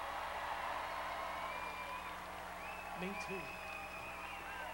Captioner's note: crowd cheering